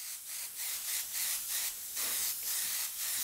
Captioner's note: airbrush hissing